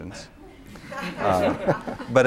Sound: laughter

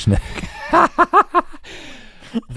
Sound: laughing

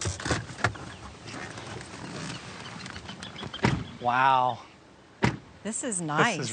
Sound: car door slams

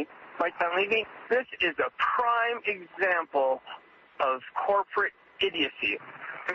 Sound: over telephone

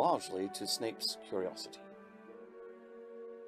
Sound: none

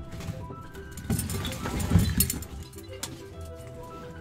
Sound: belt rattling

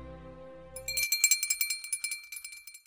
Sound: bell rings

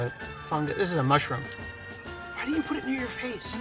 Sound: dinging

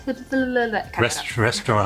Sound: trips over words

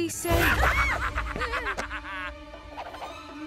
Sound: shrieks

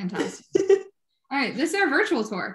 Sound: laughing

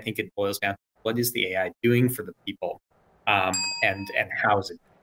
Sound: bell dings

